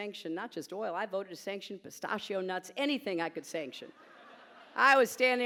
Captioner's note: laughter